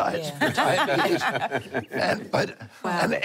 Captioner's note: laughter